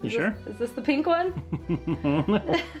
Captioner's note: laughs; chuckles evilly